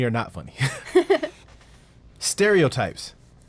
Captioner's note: woman laughs